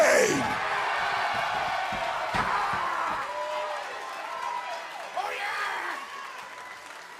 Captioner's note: cheers and applause